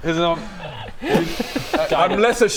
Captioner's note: spit